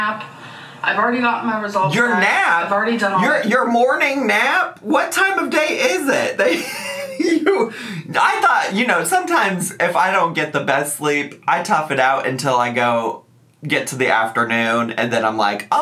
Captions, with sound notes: I've already gotten my results back- - Your nap? - I've already done all that. - Your your morning nap? What time of day is it that you (laughing) I thought, you know, sometimes if I don't get the best sleep, I tough it out until I go get to the afternoon and then I'm like,